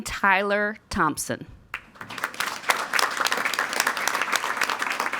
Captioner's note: all applauding